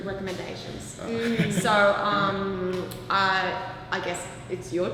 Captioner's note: laughs